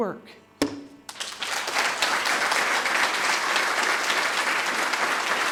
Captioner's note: audience applauding